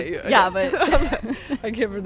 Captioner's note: both laughing